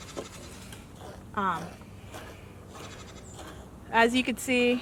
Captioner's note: goat bleating in background; milk squirting into bucket